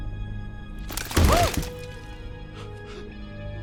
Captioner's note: ominous Music; the sound of a body and a bunch of food scraps falling on a boat